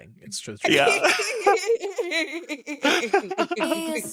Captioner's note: laughing